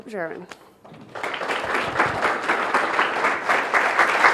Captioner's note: applause